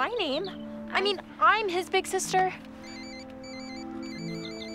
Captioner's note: phone ringing